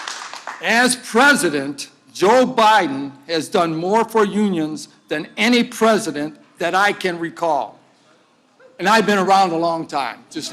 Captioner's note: applause